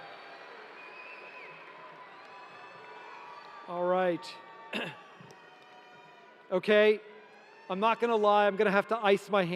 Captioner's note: cheering